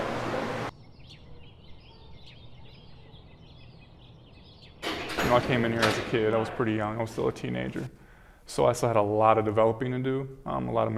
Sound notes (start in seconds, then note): 0.1 birds chirping